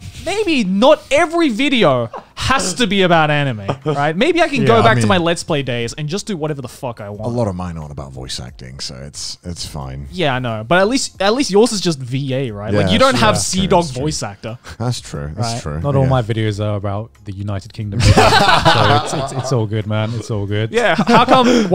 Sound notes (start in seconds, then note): 18.0 laughing